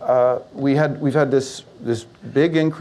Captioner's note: none